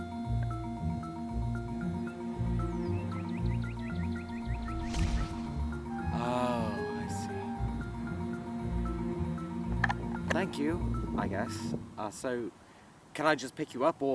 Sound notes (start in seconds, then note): 4.3 faint woosh